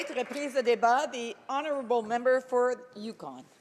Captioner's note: some applause